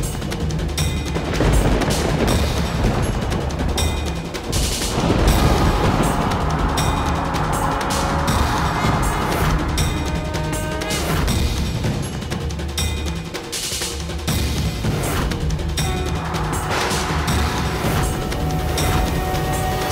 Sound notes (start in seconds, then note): 1.2 thundering